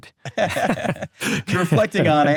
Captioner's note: both laugh